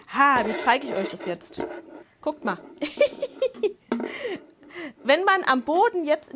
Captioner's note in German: Lachen